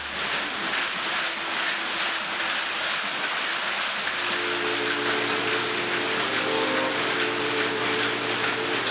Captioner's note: tube Winding